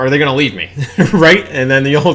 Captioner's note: laughs